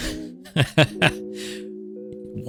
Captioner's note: laughs